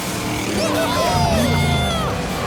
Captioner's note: cheering